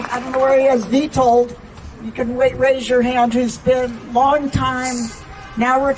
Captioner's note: applause